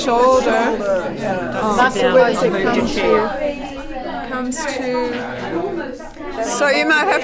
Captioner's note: audience chatter